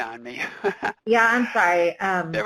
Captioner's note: laughs